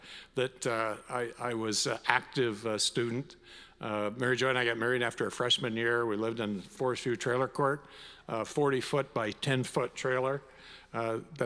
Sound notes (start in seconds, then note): none